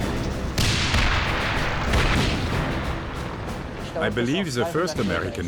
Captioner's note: tank engine roaring; tank turrets firing